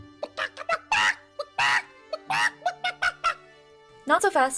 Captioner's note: chicken noises